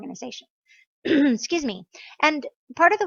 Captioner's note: clears throat